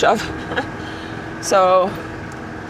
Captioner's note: laughs softly